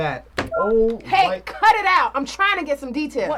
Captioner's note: soundboard beeps